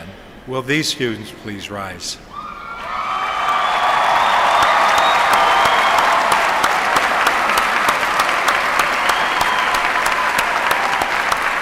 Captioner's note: applause